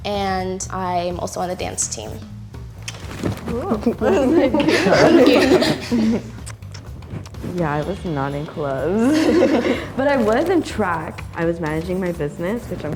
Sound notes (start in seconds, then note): 3.5 shy applause